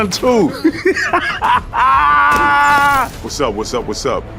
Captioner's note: Yahya laughing